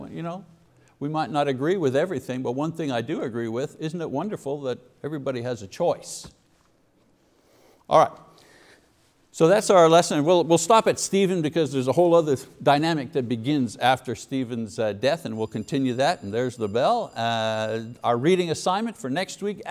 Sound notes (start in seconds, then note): 15.0 bell rings